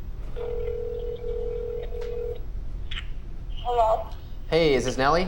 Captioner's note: phone line trilling